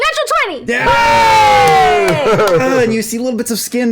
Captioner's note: cheering